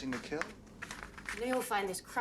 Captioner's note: paper rustling